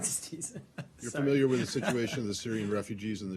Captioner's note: laughter